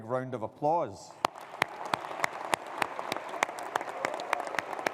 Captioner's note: audience applauding